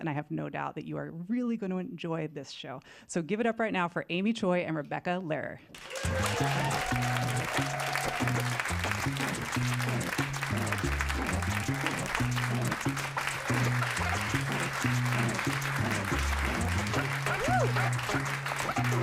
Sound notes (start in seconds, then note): 7.7 applause